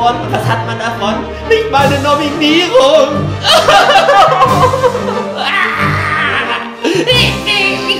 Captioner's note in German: wütendes Schluchzen